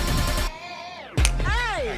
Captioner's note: snaps fingers